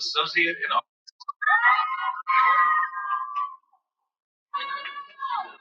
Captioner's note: cheering